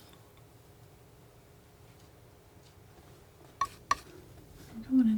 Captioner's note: tapping on paper